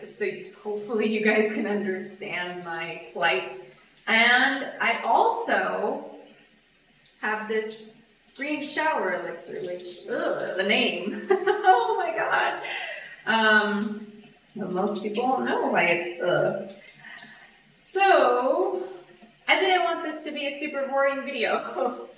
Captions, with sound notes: SO HOPEFULLY YOU GUYS CAN UNDERSTAND MY PLIGHT AND I ALSO HAVE THIS GREEN SHOWER ELIXIR WHICH UGH THE NAME [LAUGHS] OH MY GOD UM MOST PEOPLE WON'T KNOW WHY IT'S UGH SO I THINK I WANT THIS TO BE A SUPER BORING VIDEO